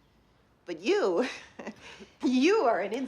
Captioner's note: chuckles